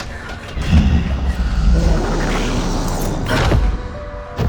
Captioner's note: puppet growling